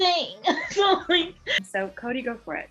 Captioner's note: chuckles